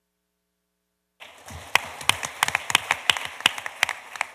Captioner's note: applause